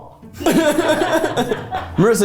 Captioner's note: everyone laughs